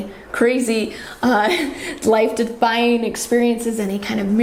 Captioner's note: laughs